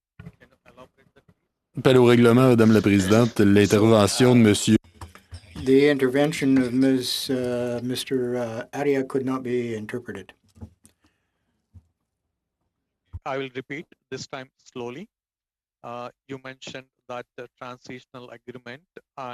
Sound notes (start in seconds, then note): 7.7 speaking French